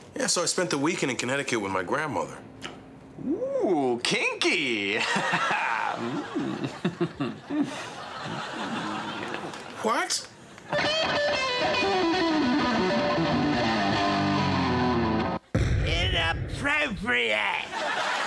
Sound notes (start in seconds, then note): 5.0 man laughs mischievously; 10.7 rock guitar playing